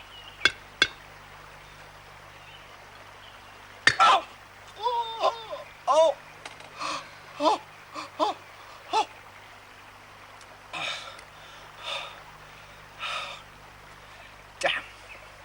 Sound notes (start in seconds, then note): 4.7 exclaiming in pain; 7.3 groaning